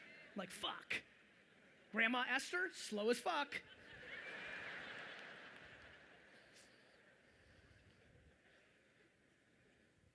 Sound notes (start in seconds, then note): 3.8 audience laughing loudly